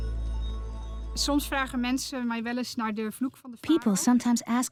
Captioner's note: Dutch dubbed in English